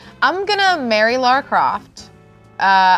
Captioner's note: none